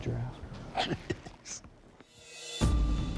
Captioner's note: laughs